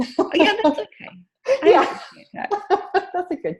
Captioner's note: laughing